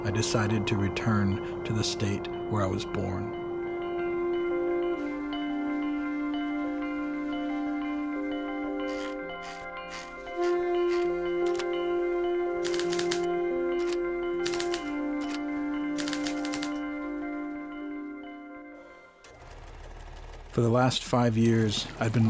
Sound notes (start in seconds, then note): 8.9 gentle music; 13.8 typewriter clicking